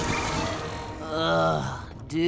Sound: groaning

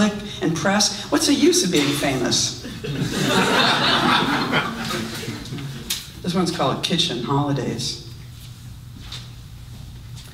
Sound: audience laughs

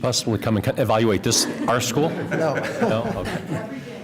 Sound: laughter

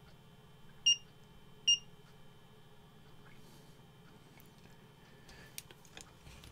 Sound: beep beep

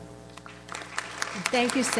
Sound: audience applauds

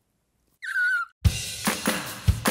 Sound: squeals; upbeat music

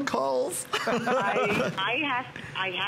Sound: laughter

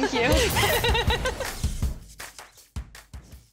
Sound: giggles

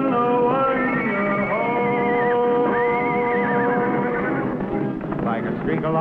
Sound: horse neighing

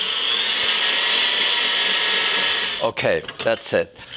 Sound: machine whirring

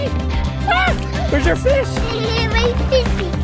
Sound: screams

